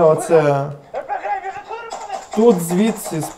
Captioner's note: shout